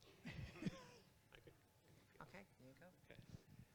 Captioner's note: group laughs